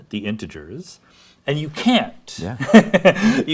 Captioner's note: laughs